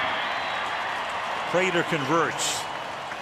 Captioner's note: cheering